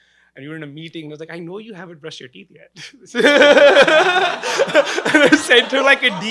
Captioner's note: laughing